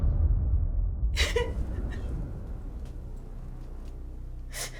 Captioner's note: ominous thump; Rose whimpering